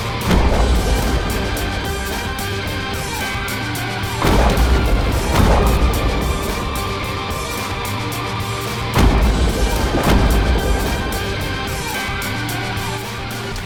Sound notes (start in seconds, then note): 0.2 gun firing; 4.2 gun firing; 8.9 gun firing